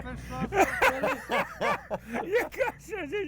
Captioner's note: laughing